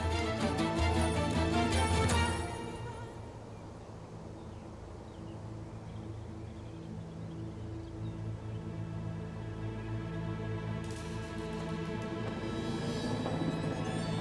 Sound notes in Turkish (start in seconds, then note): 3.7 Kuş cıvıltısı sesleri